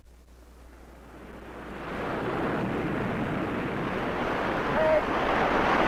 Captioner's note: waves roaring